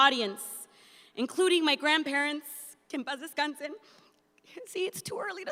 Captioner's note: speaks in Spanish